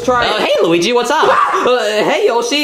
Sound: Luigi screaming

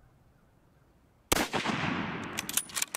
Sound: gun fires and reloads

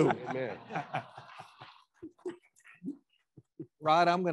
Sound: attendees laughing

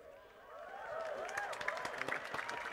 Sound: applause

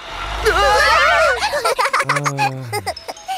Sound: giggling

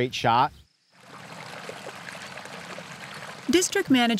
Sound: water rippling

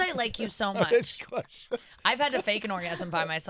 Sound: laughing

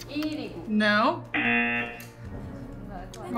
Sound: buzzer

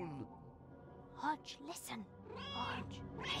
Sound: Hodge meows

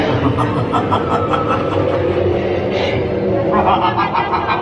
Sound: evil laughter

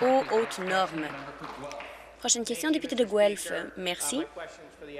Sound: applause

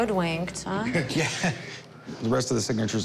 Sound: chuckles

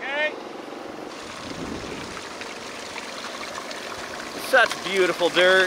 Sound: water gushing

